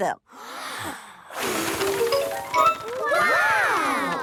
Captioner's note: big breath and blow